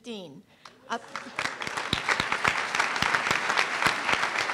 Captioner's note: applause